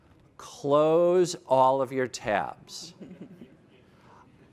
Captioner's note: laughter